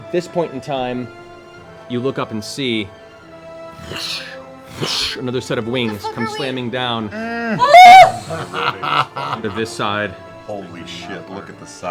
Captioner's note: whoosh whoosh